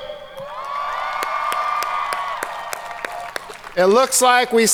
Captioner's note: audience cheering